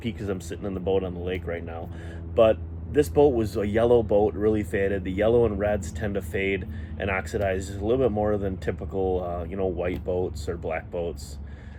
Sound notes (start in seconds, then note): 2.0 engines buzzing distantly